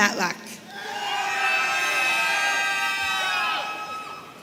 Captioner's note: audience cheering